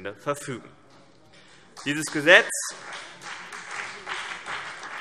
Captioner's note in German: Beifall CDU und BÜNDNIS 90/DIE GRÜNEN